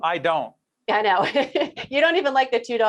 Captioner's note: laughing